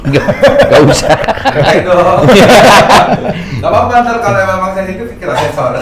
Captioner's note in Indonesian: tertawa